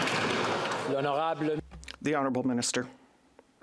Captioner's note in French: applaudissements